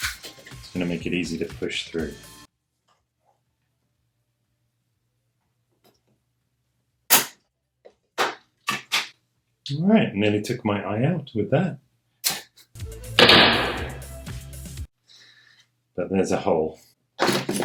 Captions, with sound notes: it's going to make it easy to push through Alright, nearly took my eye out with that (gunshot sound) But there's a hole